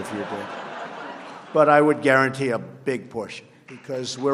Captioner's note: laughter